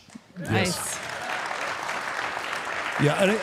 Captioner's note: crowd applauds